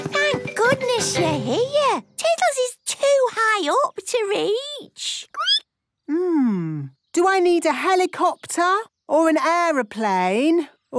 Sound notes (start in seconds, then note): 4.7 squeaking